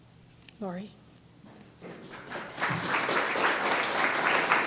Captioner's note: applause